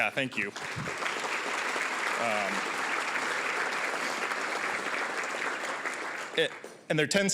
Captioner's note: applause